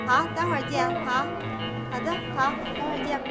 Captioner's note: speaking Tibetan